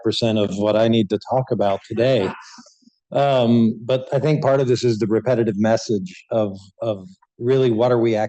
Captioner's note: laughter